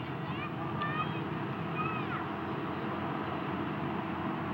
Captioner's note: child murmuring